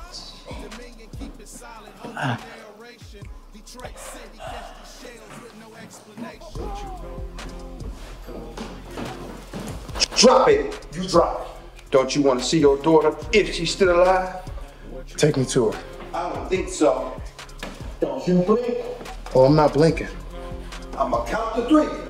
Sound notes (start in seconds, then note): 1.9 Malik wincing